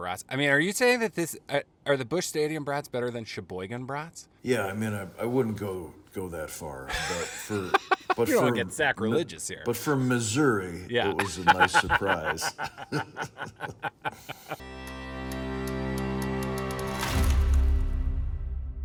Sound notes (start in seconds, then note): 11.0 laughing; 14.6 intro music